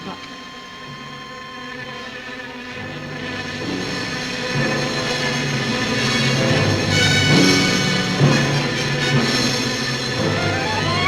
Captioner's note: buzzing